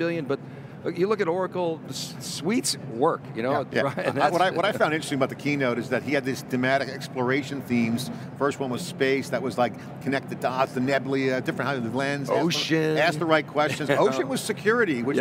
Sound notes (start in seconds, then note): 3.8 laughs; 13.7 laughing